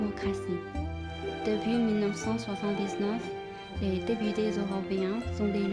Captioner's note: French